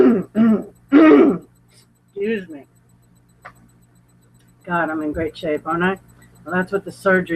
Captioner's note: clearing throat